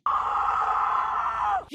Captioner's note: screaming